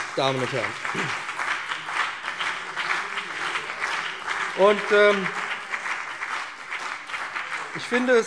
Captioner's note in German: Beifall